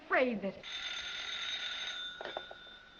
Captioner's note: phone rings